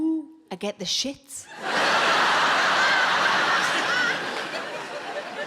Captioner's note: audience laughing